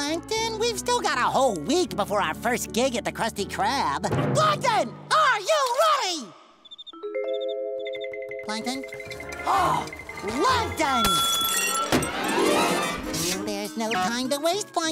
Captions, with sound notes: we've still got a whole week before our first gig at the Krusty Krab. Plankton, are you ready?! [crickets chirping] Plankton? [gasping] Plankton! [shattering] There's no time to waste, Plankton.